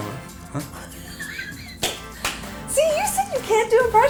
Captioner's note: laughs